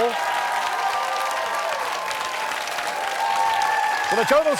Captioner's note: cheers and applause